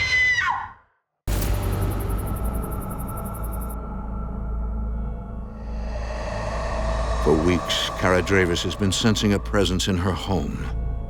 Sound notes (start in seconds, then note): 1.3 insects chirping; 1.4 ominous music